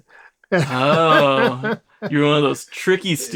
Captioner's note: laughs